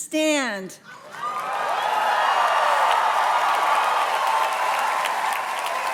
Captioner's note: audience cheers and claps